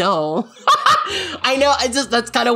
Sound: laughing

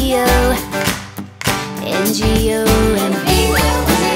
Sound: Wally claps

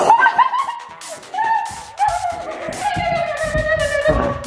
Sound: girl screaming

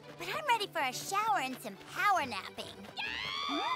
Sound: mandy screams

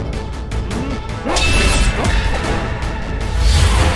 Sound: whooshing sound

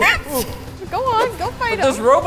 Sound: gladiator stick swooshing

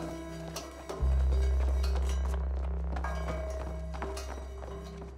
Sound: footsteps

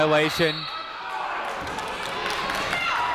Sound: whistle tweeting; people shouting in the crowd

